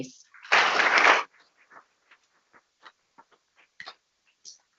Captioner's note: people clapping